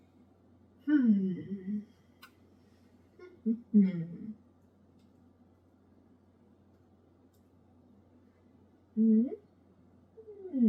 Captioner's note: hums